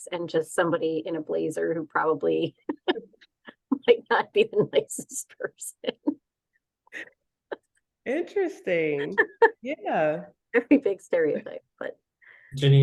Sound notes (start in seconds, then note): 2.4 laughing; 7.1 laughing